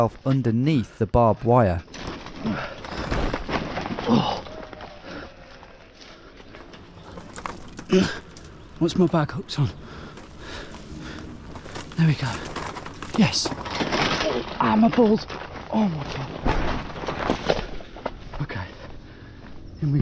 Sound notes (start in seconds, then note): 2.6 accessories rustling; 4.1 distant crowd cheering; 15.4 groans